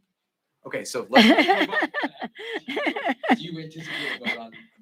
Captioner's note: Nancy laughing